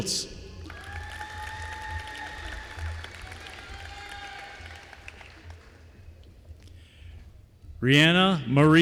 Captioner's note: applause